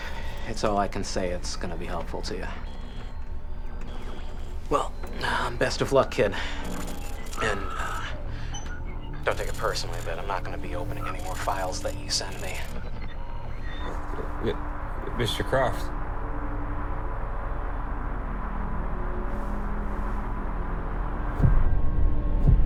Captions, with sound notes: That’s all I can say that’s gonna be helpful to ya. Well, um, best of luck, kid. And, uh, don’t take it personally, but I’m not gonna be opening any more files that you send me. (static hisses) - Mr. Kroft. (tense instrumental music)